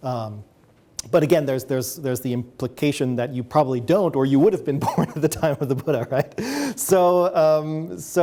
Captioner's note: laughs